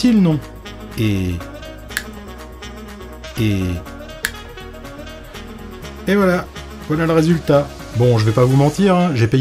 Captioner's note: snap